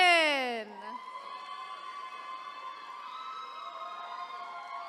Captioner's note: attendees cheering